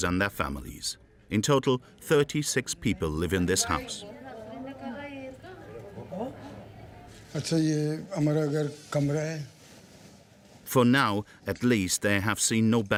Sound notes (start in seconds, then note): 4.6 family chattering; 7.2 speaking foreign language